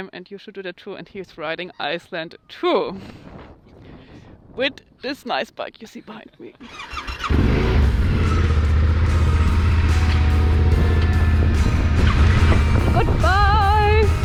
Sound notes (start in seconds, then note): 6.6 engine cranks